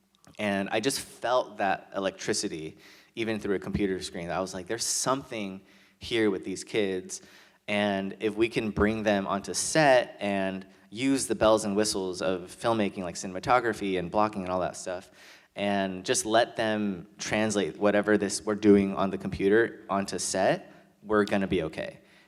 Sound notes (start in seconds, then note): none